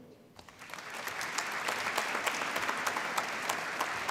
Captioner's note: applause